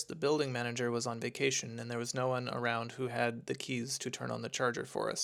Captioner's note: none